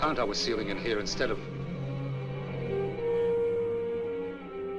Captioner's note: moaning